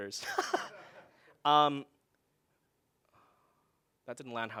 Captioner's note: laughing loudly